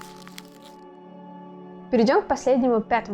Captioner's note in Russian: звук мятой бумаги